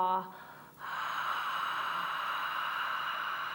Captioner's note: breathing